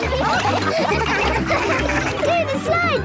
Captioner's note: all laughing